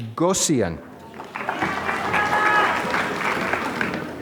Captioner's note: applause